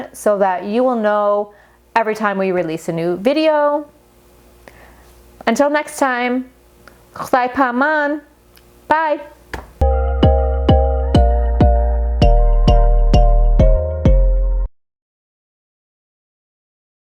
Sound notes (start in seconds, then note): 7.2 speaking foreign language; 9.8 upbeat music